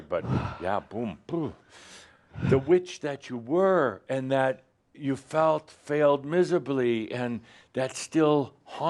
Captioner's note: she sighs